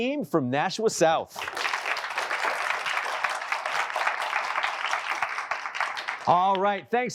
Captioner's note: applause